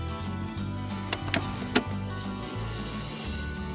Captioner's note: click